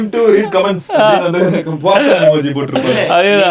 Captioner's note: group laughs